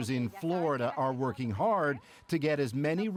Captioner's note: speaking spanish